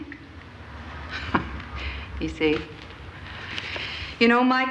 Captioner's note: chuckles